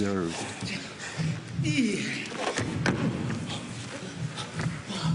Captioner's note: panting and grunts